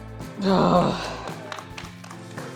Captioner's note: grunts; applause